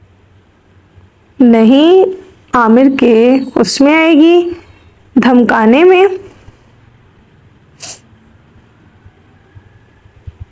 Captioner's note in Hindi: नाक से की जाने वाली आवाज़